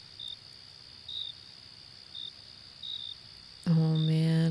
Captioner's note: crickets and forest sounds continue